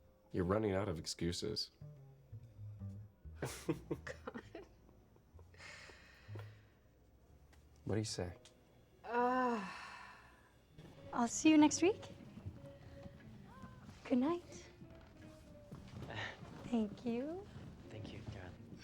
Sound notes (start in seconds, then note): 3.4 chuckles